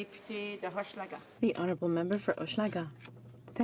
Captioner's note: speaking French